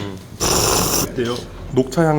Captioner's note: slurp